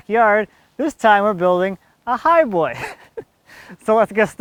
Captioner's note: laughs